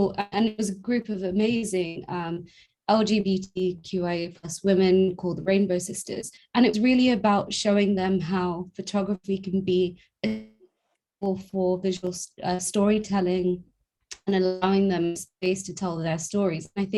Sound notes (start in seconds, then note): 10.2 audio glitch